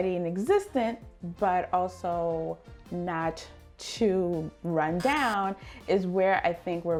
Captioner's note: buzzer buzzing